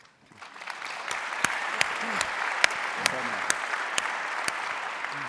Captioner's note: audience applauding